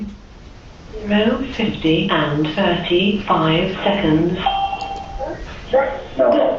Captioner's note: call chimes